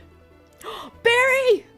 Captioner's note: gasp